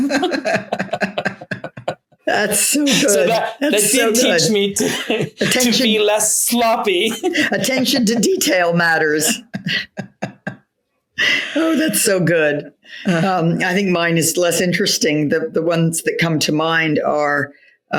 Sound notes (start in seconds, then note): 0.0 laughing; 9.0 laughs